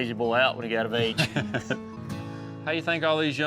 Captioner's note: both laughing